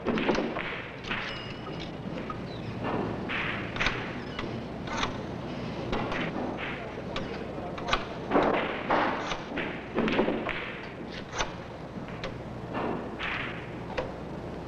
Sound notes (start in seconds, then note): 3.7 dial whirring